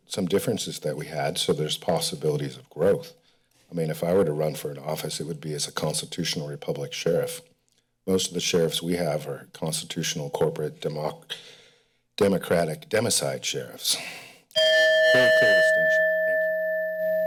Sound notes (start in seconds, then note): 14.6 timer beeping